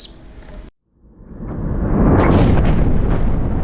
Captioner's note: thunder crashing